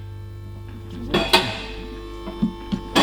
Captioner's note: car lifter clicks